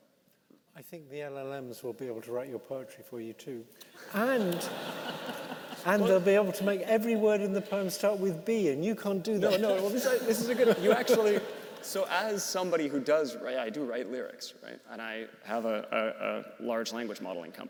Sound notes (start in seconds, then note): 3.9 participants laughing